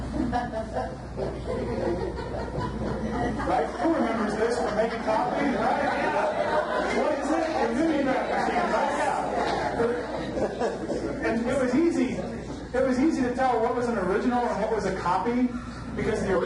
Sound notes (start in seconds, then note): 1.4 audience laughs; 7.8 laughter drowns out speaker